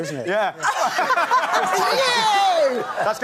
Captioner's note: laughs